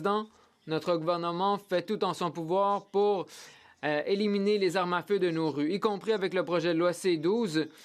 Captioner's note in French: voix de l'interprète